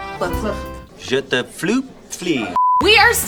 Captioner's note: foreign language